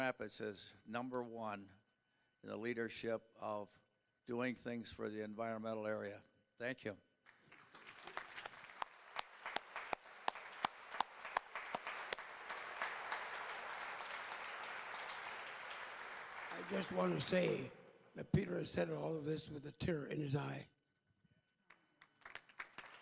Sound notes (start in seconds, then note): 7.3 applause; 21.9 applause